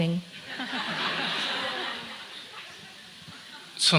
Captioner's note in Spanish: Risas